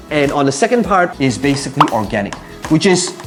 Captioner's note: bubble popping